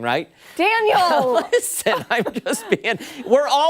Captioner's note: laughter